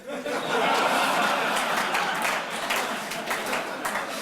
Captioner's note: audience laughs